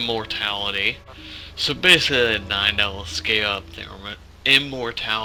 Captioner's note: deep breathe